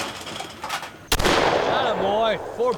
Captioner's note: shot banging